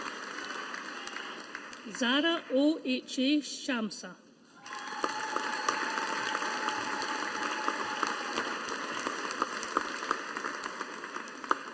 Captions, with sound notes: Zahraa O. H. A. Shamsah. (AUDIENCE APPLAUDING)